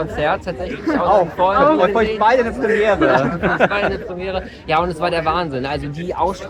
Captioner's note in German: gelächter